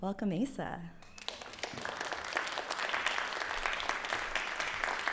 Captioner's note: applause